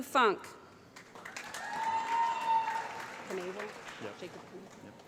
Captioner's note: applause